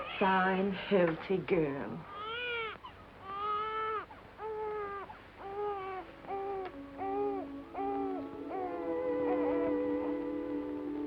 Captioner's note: baby crying